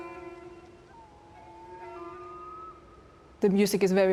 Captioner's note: bird calls